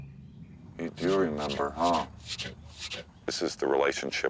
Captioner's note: Half Nose huffing